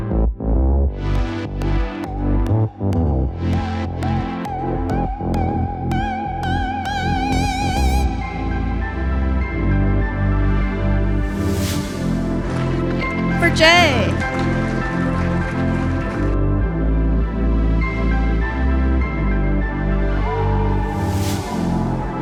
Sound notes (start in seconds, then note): 2.1 mellow electronic music continues; 15.2 audience applauds; 16.3 mellow electronic music continues